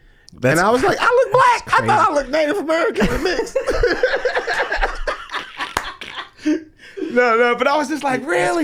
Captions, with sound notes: Then I was like, I look black. I thought I looked Native American. (laughing) No, no, but I was just like, really?